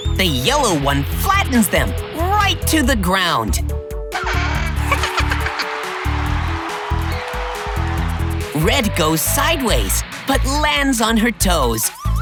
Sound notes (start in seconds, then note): 4.1 squeaking; 4.2 giggling; 6.8 cheering